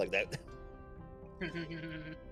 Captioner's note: laughs